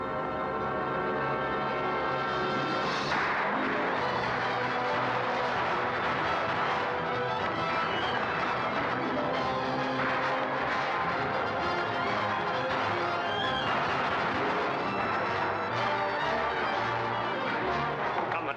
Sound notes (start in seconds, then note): 0.1 dramatic music; 3.1 guns firing